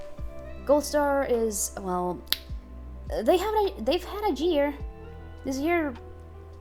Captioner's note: lip smack lmao